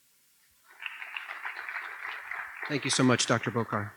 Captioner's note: applause